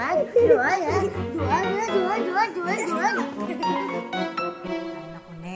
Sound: giggles; laughs, squeals

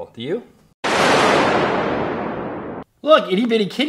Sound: thunder crashing

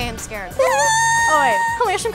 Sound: squealing

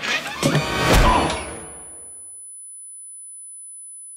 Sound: thudding

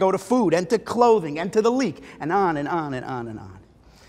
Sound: Hebrew

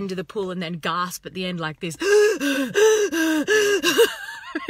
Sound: gasping

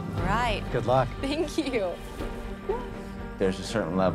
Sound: laughs

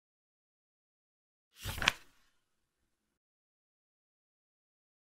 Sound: A sound of a page turning

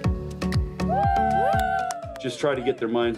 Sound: cheering

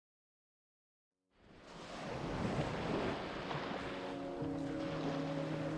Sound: waves crashing; somber music

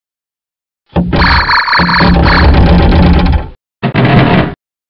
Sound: Even more 3D Pinball sounds

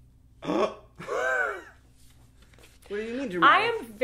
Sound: gasps and laughs

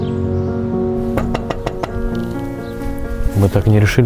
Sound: knocking

